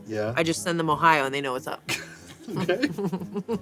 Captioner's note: laughs